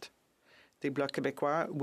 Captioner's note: speaking French